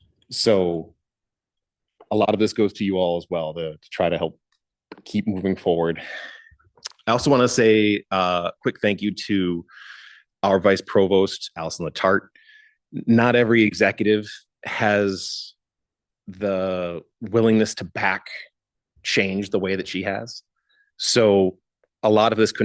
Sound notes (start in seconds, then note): none